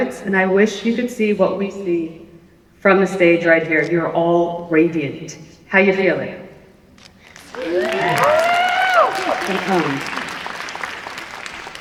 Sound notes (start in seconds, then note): 7.3 applause and cheering